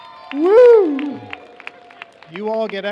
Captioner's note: cheers